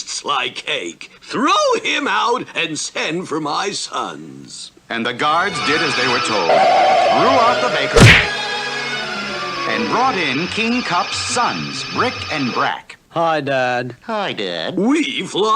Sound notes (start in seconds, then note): 7.9 smack!